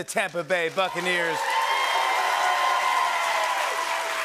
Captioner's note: cheers and applause